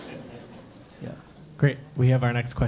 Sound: laugh

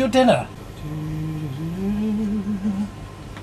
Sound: humming

